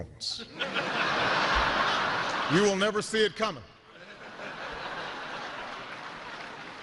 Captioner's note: laughter